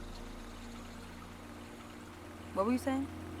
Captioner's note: gentle water